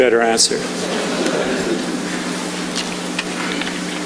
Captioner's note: chuckling